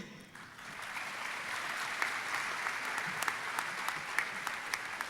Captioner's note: audience applauding